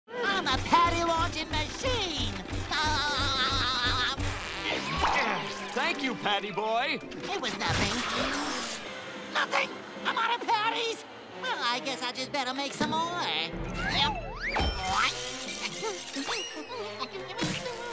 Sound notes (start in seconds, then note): 2.5 laughing